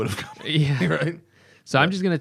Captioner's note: laughter